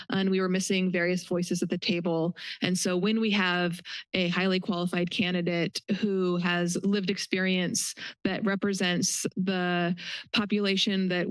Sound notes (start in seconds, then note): none